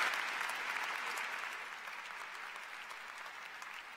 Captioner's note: applause